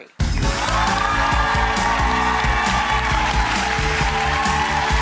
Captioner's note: audience cheers